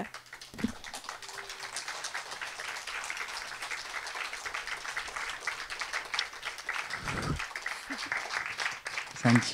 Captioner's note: aplause